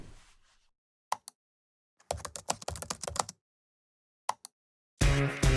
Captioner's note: typing